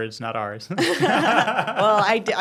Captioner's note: hosts laughing